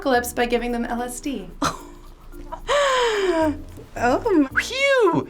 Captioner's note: laughing